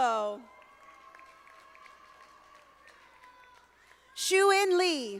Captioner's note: audience applauding